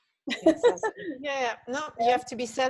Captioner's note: laughs